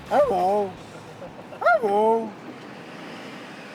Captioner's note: speaking "as a dog"